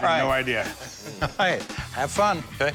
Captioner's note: laughing